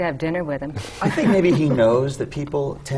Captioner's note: laughter